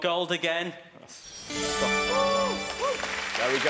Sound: chiming; cheering

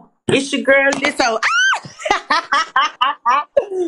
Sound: laughs

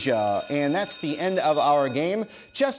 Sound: buzzer sounds

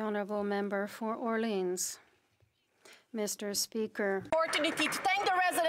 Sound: some Applause

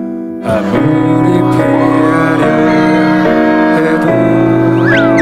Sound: deep voice

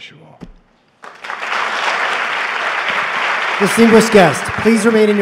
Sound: applause

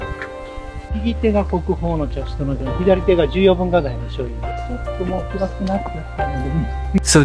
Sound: host speaks in japanese

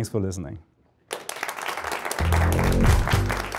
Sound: applause

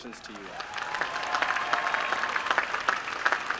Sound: applause

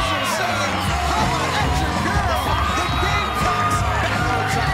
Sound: crowd cheering

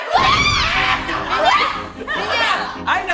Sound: yelling

